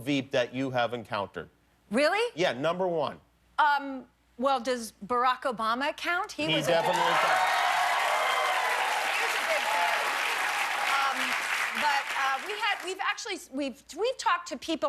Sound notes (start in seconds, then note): 3.8 cheers and applause